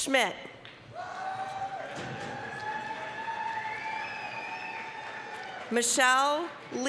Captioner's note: applause, cheering